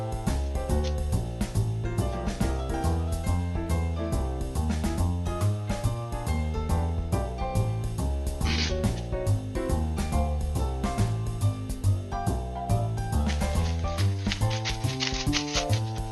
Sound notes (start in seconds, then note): 5.7 munchin' noises; 8.4 spoopy rustle sound